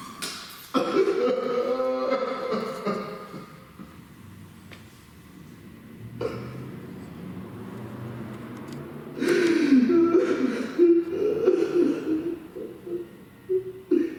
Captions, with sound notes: [Sobs] What the fuck, man. What the fuck...